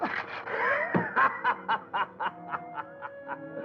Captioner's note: laughing